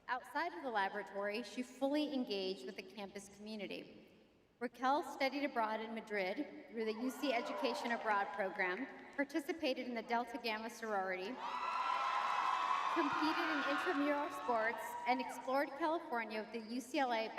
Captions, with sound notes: Outside of the laboratory, she fully engaged with the campus community. Raquel studied abroad in Madrid through the UC Education Abroad Program, participated in the Delta Gamma sorority- [audience cheering] competed in intramural sports, and explored California with the UCLA